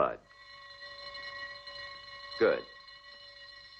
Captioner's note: bell ringing